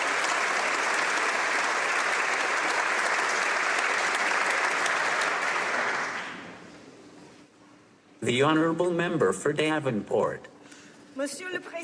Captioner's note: some Applause